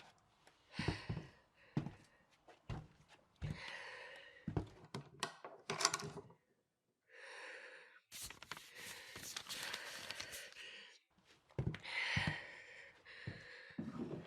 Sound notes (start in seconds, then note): none